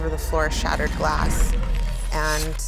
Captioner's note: glass cracking